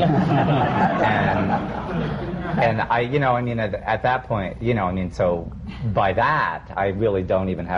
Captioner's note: laughter